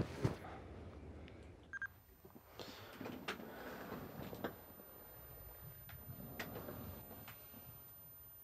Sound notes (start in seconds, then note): 1.7 camera beeping; 5.2 camera whirring